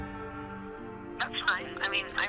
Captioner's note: on phone